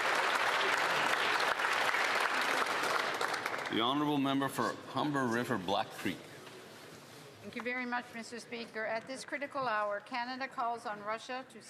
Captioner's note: applause